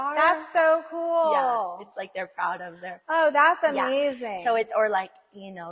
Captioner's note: none